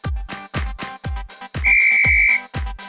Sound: whistle

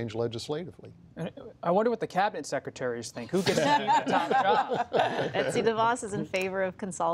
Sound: laughter

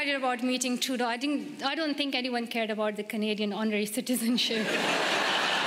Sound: laughter

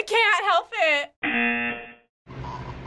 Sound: buzzer

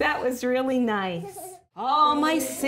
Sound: child growling

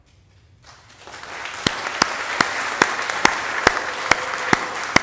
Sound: audience applauding

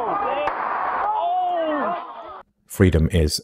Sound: observing crowd shrieks

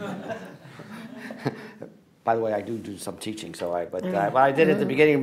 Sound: laughter

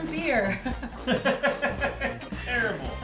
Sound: laughter

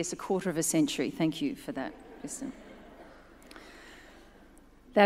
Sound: audience chuckles

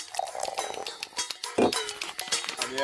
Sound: liquid pouring; men speaking in foreign language

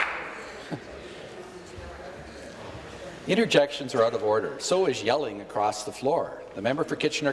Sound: applause

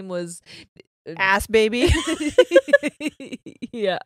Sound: both laughing

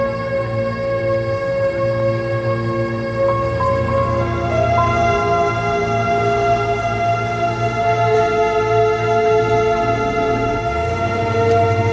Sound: door closes

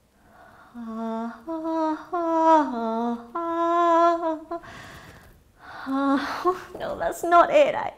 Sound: hums

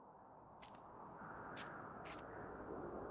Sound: wind blowing

